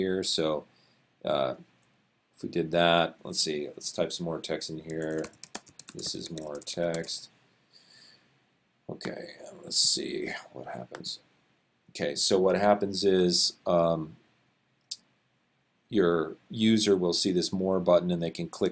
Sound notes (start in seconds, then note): 4.9 typing